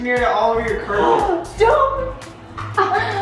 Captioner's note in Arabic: أمي تلهث